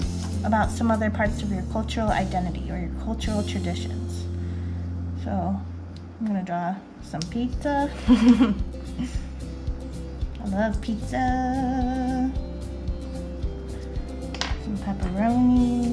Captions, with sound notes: about some other parts of your cultural identity or your cultural traditions. So, I'm gonna draw some pizza. (laughs) I love pizza. Some pepperoni.